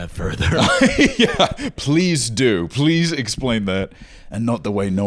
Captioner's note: laughs